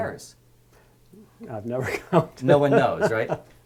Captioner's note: laugh